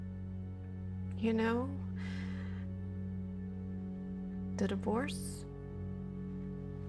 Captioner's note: inhales